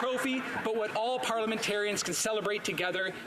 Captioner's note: some Applause